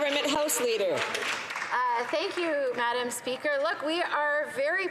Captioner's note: some Applause